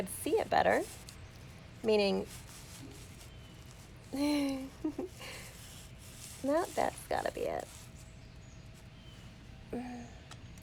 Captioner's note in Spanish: risas